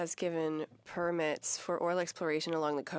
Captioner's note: speaking French